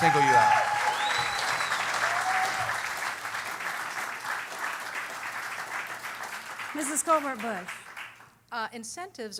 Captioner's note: cheering